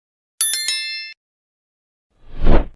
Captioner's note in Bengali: ঘণ্টা